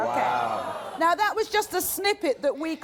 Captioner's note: audience groans